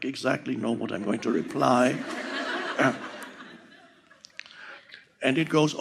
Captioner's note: audience laughing